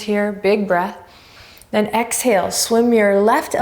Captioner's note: deep breaths